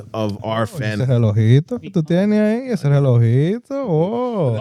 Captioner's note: speaking In Foreign Language